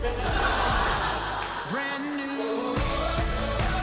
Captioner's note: laughter